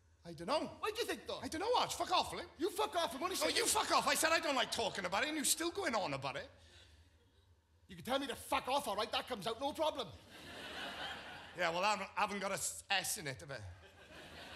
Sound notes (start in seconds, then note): 10.3 audience laughs